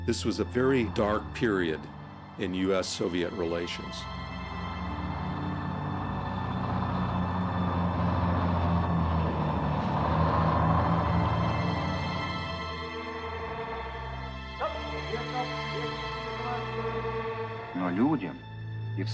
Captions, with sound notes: This was a very dark period in US/Soviet relations. (truck rumbles) (speaks in foreign language)